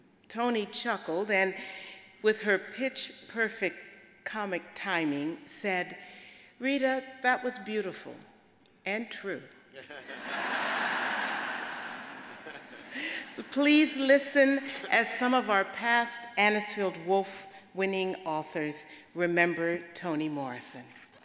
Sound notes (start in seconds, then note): 9.9 audience laughs